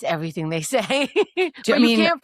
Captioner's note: laughs